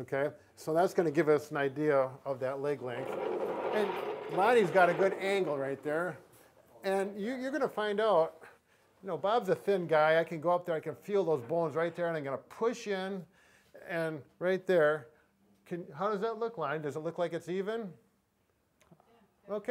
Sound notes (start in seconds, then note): 2.4 wheels scrapping loudly against the floor